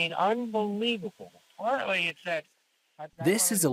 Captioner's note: voice trails off